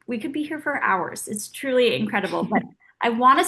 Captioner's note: Oksana laughing